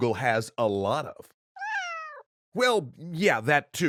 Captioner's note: Zoey meows